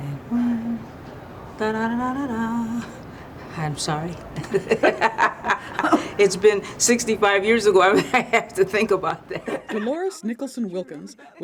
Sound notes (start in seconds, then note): 0.6 mutters; 1.5 hums; 4.2 laughs; 4.3 pair laughs; 9.2 laughs